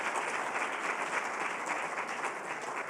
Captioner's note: applause